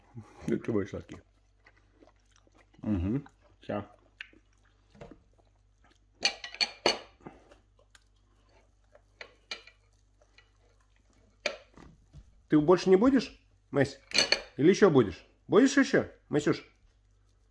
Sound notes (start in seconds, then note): 3.3 chewing; 5.0 slurping